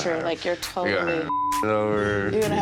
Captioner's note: beep